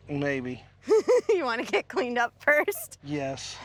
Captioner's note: laughing